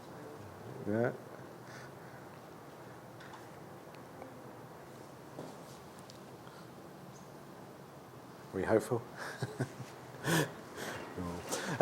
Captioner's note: laughs